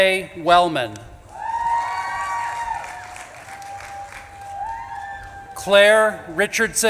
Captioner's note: audience claps and cheers